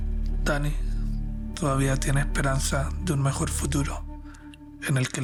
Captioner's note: mystical music continues; narrator speaking Spanish